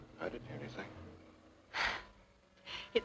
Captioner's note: exhales sharply